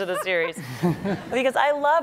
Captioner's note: laughing